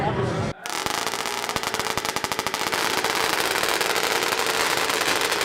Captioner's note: chainsaw engines start